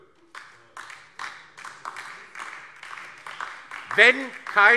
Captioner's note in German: Beifall DIE LINKE und vereinzelt SPD